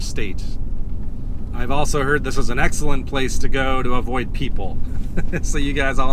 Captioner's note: laughs